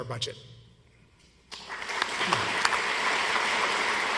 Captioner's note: audience applauds